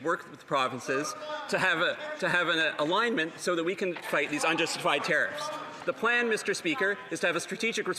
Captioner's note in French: voix de l'interprète